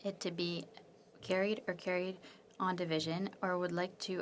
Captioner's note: speaking French